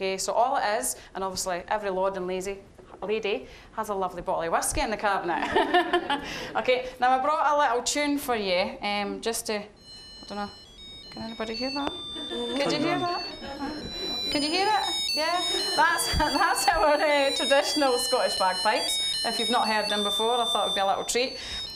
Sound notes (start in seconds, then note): 5.4 all laughing; 9.8 tinny electronic Scottish bagpipe music; 13.7 audience laughing; 15.0 chuckling